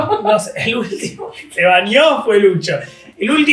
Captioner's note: laughs